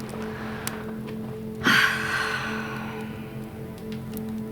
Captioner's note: sighs